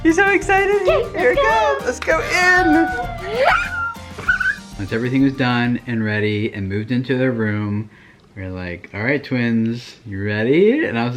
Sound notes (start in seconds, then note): 2.8 mom gasps